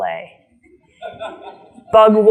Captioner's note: audience laughs